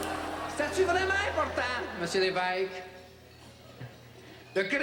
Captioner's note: audience laughs; Yvon speaks in French